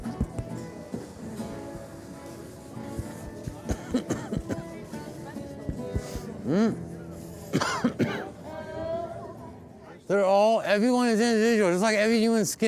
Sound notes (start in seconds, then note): 0.2 upbeat string music; 4.6 coughing